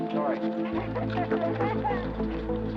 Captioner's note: laughing